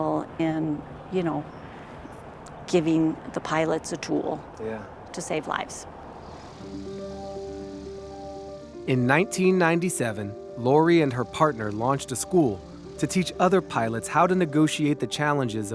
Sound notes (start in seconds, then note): 5.8 plane engine roaring; 6.4 gentle music